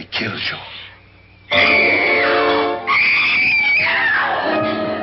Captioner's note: girl screams